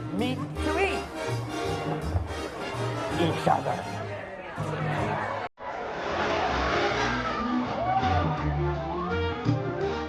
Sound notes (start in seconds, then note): 4.5 upbeat music; 5.3 patrons chatter